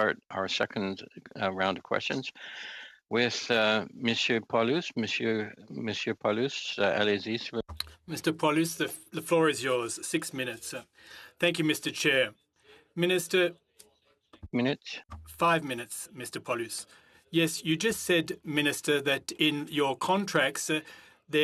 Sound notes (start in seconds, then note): 9.5 speaking French